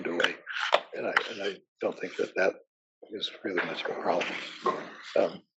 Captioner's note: cough